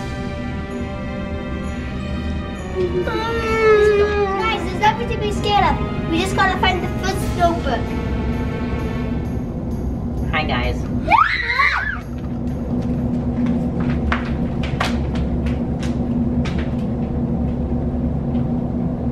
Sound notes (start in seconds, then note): 0.2 adventurous music; 2.7 whimpers; 11.0 screams; 14.1 footsteps